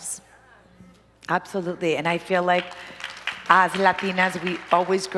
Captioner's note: applause